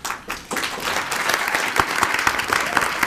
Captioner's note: applauding